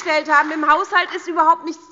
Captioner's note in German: Beifall bei der SPD